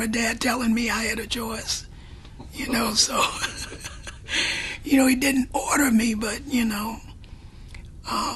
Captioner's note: laughs